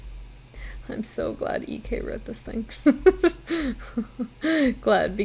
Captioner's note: laughs